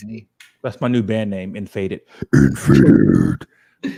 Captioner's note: growling